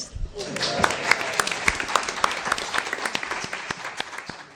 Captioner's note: crowd applauds